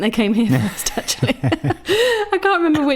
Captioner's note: laughs